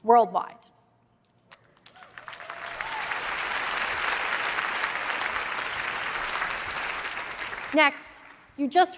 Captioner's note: applause